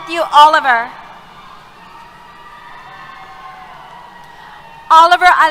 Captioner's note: cheers